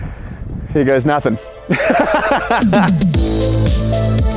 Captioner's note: laughing; upbeat techno music